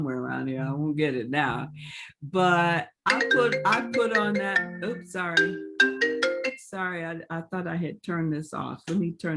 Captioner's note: phone rings